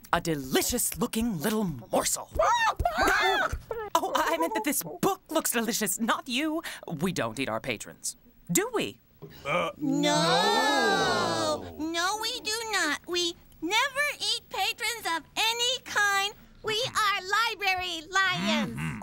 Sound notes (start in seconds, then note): 2.1 squawks